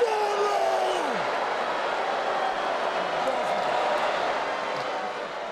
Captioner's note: crowd murmuring continues